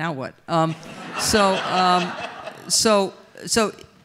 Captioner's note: audience laughs